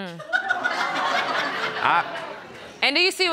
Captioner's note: audience laughing